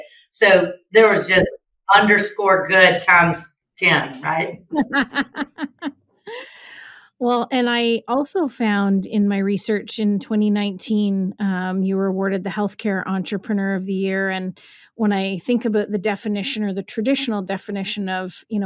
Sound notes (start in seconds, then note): 3.9 laughs